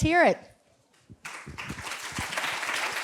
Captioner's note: applause